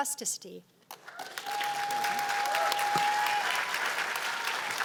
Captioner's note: cheers and applause